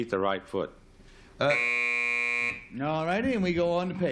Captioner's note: buzzer